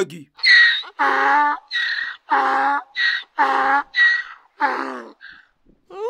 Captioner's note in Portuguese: o jegue relincha